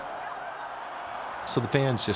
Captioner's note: crowd cheering